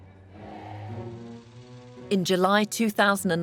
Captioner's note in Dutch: langzame muziek; projector zoemend